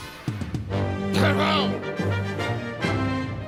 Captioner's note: shouts command